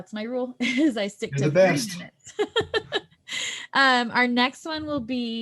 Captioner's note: laughter